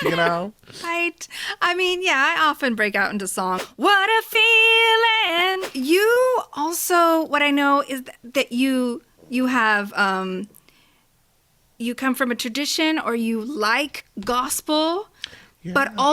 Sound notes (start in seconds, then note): 0.7 laughs; 3.6 whoosh